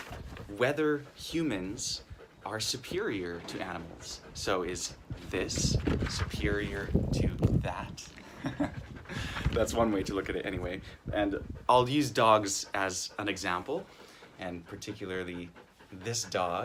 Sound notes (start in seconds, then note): 8.2 he chuckles